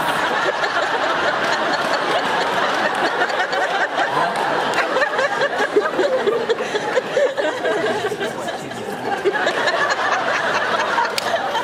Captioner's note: laughs; laughs